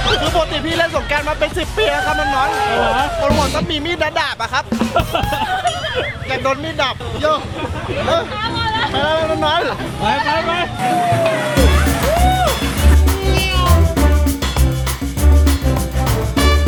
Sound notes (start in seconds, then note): 4.8 chuckles; 11.5 joyful music playing